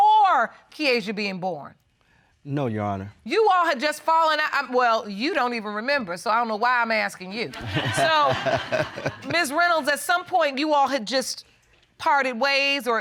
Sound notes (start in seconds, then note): 7.5 laughter